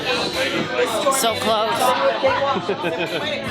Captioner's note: laughs; relaxing guitar music